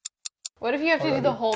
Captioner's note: clock ticks